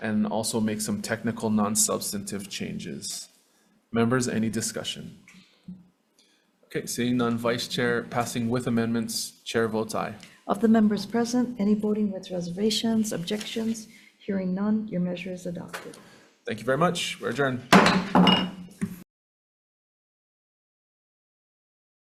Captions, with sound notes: and also make some technical, non-substantive changes. Members, any discussion? Okay, seeing none. Vice-chair passing with amendments, Chair votes aye. - Of the members present, any voting with reservations, objections? Hearing none, your measure is adopted. - Thank you very much, we're adjourned. (gavel bangs)